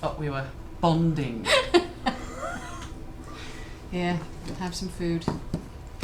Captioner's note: laughs